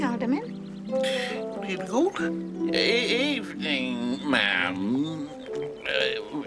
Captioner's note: stammering